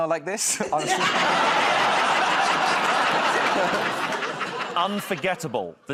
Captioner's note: laughter